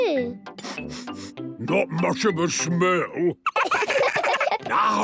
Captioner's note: sniffing; sniffs